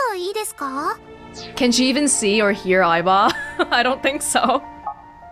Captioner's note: chuckles